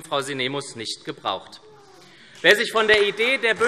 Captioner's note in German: Beifall SPD